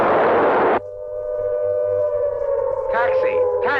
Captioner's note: sirens wailing